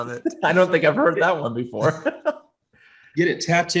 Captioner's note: chuckles